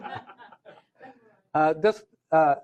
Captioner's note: laughter